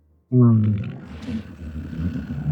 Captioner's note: growling